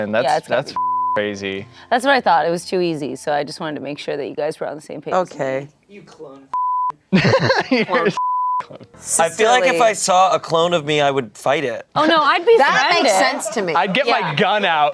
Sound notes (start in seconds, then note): 0.7 beep; 6.5 beep; 7.1 everyone laughs; 8.1 beep